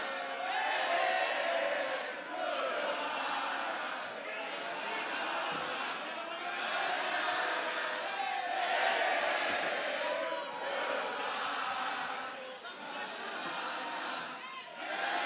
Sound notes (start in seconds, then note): 0.0 fans chanting